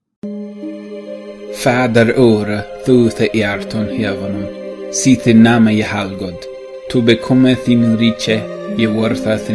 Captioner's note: music fades out; The Lord's Prayer plays in Old English